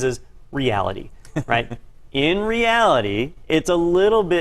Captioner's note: laugh